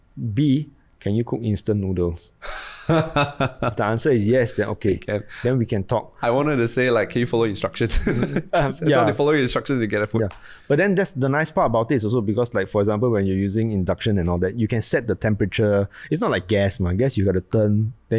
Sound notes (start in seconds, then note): 2.4 laughs; 7.9 laughs